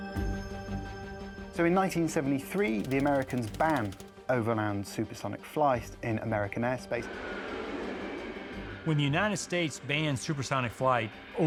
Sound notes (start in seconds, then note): 7.2 aeroplane whooshing